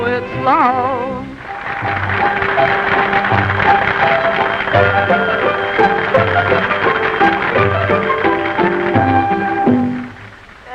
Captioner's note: applause